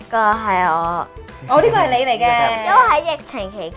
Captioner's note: laughing